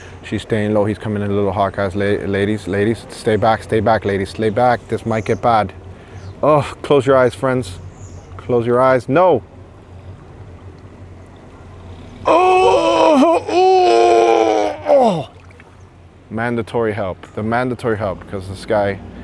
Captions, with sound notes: she's staying low, he's coming in a little hot guys, ladies, ladies stay back, stay back ladies, lay back, this might get bad oh, close your eyes, friends close your eyes, no *dying sounds* mandatory help, the mandatory help, because this guy